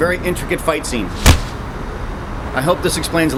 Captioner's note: faint thudding